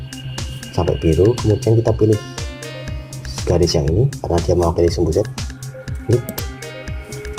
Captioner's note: click